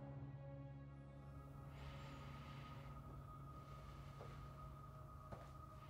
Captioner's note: breathes deeply